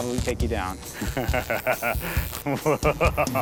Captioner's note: laughs evilly